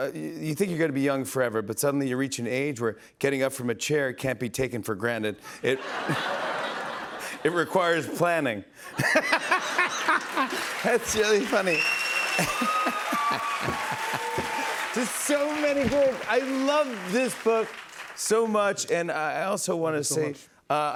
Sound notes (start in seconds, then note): 5.7 laughter; 8.9 laughter; 11.9 cheers and applause